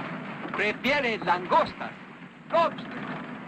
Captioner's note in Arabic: يتحدث الاسبانية